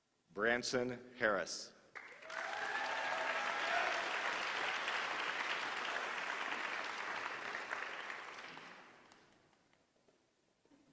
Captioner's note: applause